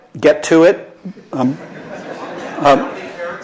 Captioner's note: laughter